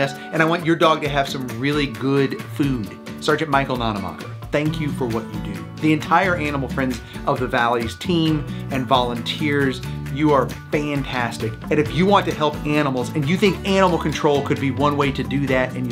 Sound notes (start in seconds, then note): none